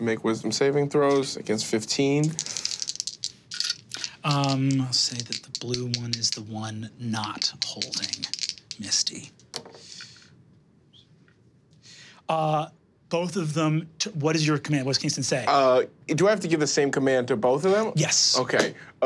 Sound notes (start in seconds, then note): 2.2 dice clattering